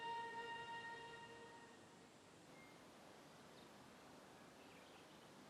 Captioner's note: birds chirping